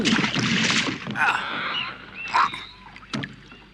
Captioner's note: rat grunts